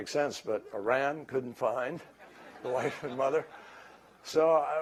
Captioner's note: laughter